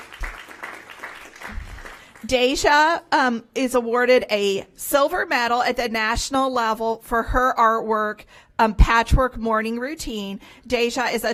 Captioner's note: applause